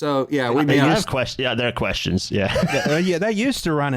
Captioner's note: laughs